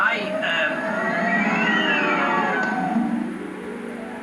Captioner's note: wind Blowing